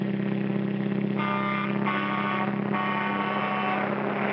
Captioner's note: car engine racing; horns honking; air whooshes; car engine racing